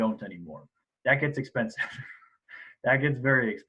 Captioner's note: laughs